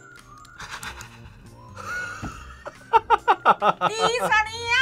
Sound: both laugh

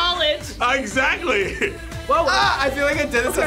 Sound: laughs

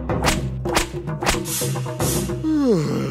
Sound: yawns

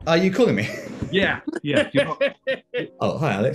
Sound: laughing

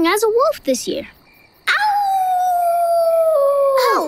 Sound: howling

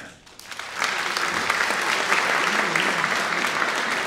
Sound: audience applauds

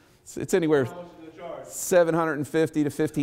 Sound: male attendee mumbles

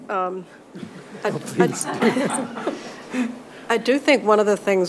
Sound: participants laugh

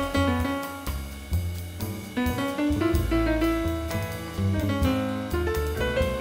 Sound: none

